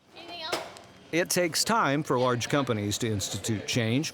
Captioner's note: voiceover